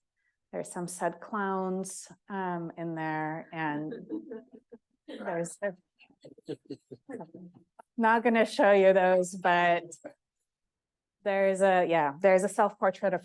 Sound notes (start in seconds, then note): 3.9 audience member chuckling; 6.2 distortion drowns out